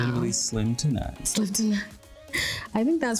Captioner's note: chuckles